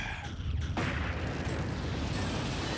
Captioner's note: sighs